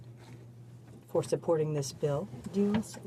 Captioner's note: speaking in french